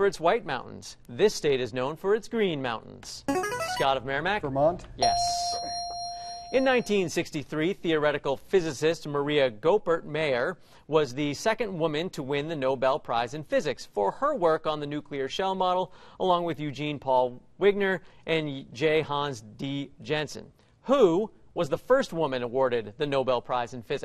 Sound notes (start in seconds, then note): 2.5 buzzer plays; 5.0 ding